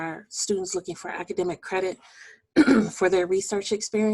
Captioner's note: clearing voice